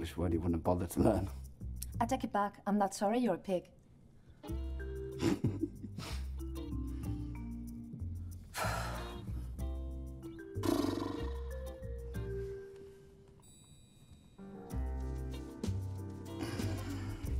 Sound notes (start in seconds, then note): 5.2 laughing; 8.5 sighing